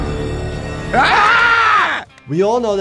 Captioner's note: tense music; Stewie screaming; person screaming